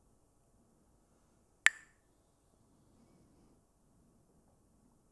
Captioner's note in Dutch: klakt met stokjes